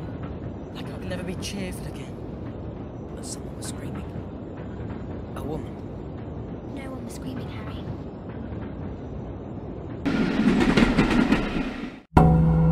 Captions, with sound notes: Like I'd never be cheerful again. But someone was screaming. A woman. No one was screaming, Harry. (train drives into the distance) (horror sting)